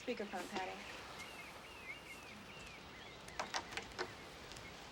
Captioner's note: birds chirping